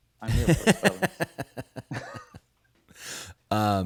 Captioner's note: laughing